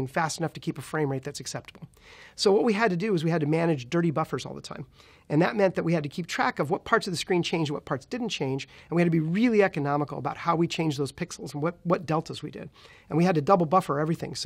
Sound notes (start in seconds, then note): none